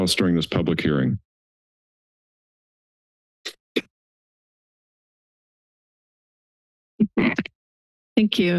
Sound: silence

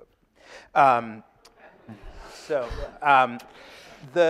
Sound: audience laughing

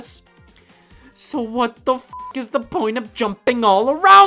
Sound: beep

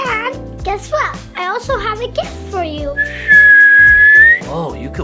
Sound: whistles

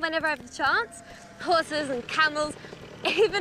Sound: chuckles

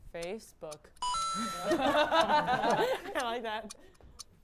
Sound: laughter

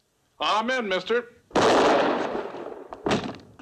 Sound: gunshot

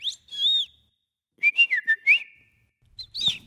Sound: bird whistles; Mimi whistles; bird whistles

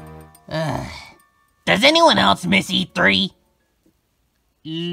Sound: sigh

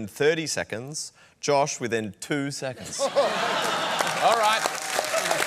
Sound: laughter

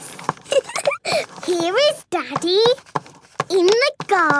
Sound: giggling

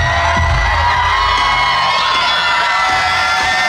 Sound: audience screaming

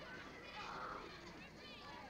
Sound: children shouting

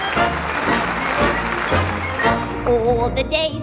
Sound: audience applauds; irish folk music

